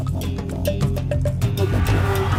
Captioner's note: crowd cheering